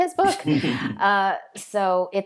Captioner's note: laughing